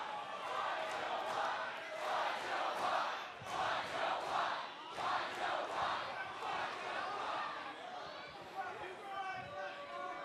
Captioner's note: fans chanting